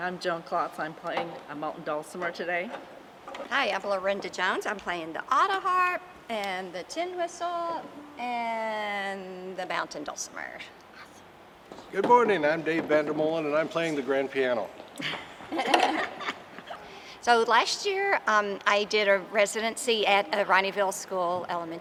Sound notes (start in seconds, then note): 15.0 members laughing